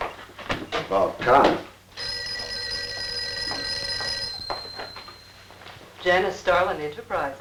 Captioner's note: phone ringing